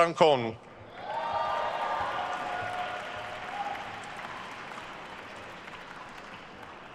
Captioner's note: attendees cheering and applauding